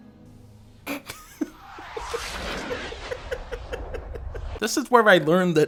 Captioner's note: laughs